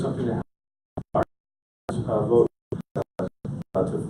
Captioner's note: audio cutting out